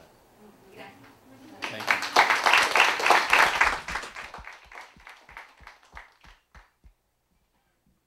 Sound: applause

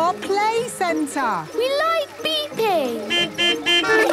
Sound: horns beeping

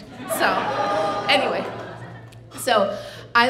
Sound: audience laughing

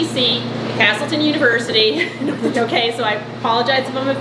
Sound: laughing

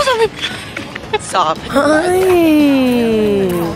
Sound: girl laughing

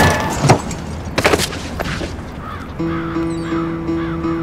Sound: birds squawking

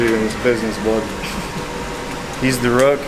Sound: chuckling

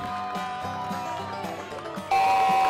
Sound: cheers

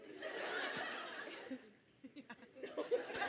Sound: all laugh

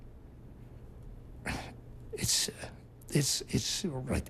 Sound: sighs

